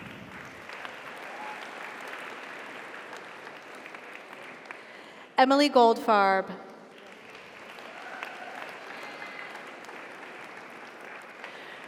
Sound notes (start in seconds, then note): 0.0 audience applauds; 0.4 audience cheers; 9.9 audience applauds; 9.9 audience cheers